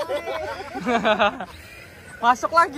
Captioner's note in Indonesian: Tertawa